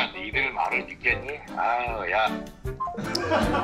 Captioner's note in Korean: 통화 종료음